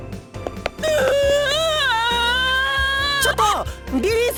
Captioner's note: bawl